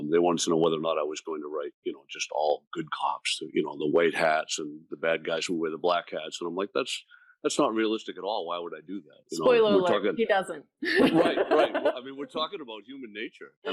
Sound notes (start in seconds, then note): 10.9 laughing